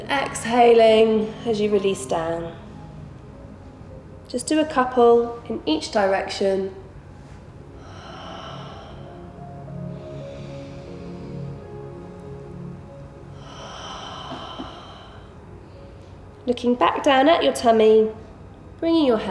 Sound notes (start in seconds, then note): 7.6 heavy breathing